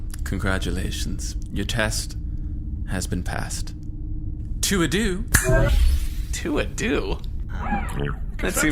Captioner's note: snaps fingers